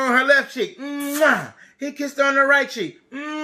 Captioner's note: kisses